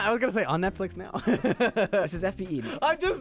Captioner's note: laughing